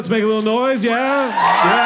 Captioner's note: audience clapping